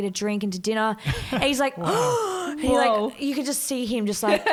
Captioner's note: gasps